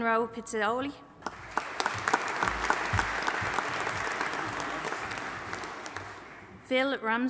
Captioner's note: audience applauding